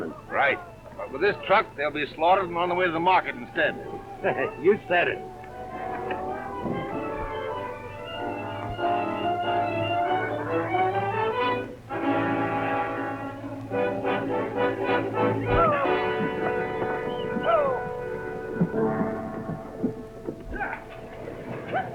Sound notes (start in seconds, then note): 6.6 adventurous music; 15.9 cowboys prod and whistle; 19.3 tense music